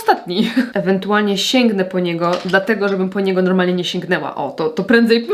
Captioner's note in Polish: śmiech